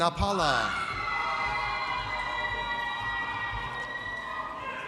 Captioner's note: audience cheers